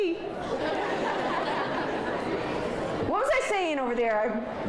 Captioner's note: audience laughs